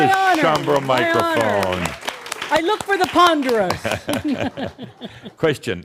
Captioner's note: applause continuing; they chuckle